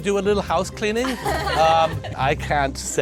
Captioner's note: giggling